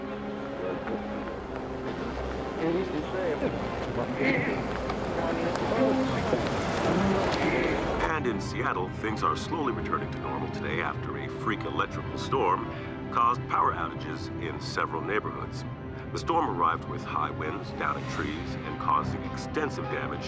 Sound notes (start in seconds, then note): 0.0 indistinct chatter; 8.0 radio